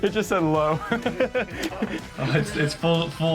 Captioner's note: laughing